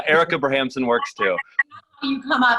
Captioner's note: laughing